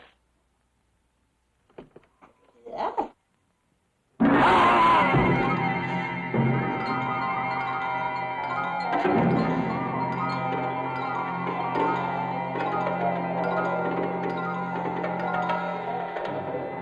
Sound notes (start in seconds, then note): 4.2 intense music; 4.2 Neal screaming